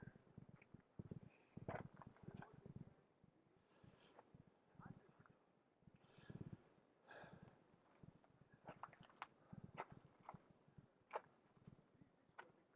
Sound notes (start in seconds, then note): 9.7 gravel crunching